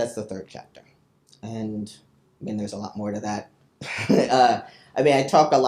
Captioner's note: chuckles